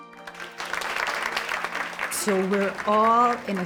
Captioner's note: applause